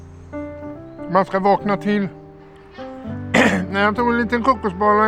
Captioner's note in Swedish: harklar sig